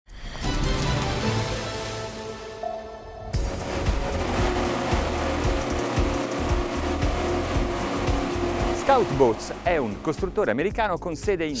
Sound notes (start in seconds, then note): 0.1 dramatic music; 3.3 boat engine revving; 4.0 upbeat music; 9.3 speaking in foreign language